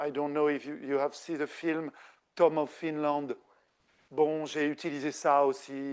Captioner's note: speaking French